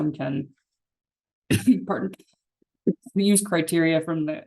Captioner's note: coughs